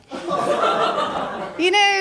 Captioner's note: laughter